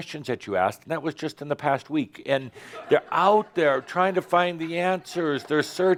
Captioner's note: some chuckles